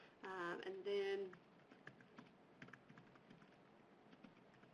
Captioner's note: typing